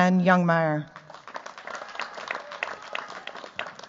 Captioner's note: cheers, applause